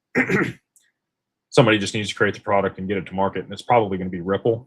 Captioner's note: clears throat